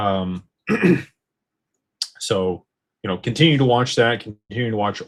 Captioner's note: clears throat